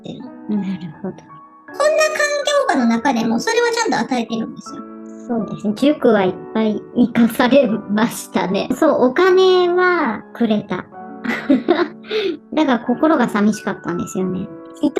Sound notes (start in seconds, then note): 11.2 laughs